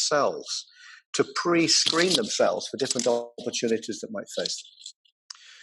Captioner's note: audio cutting out